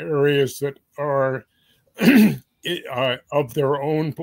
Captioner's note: cough